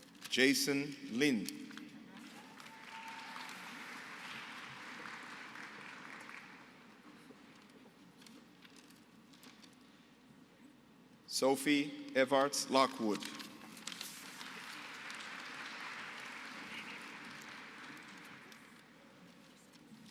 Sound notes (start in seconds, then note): 2.2 applause; 14.1 applause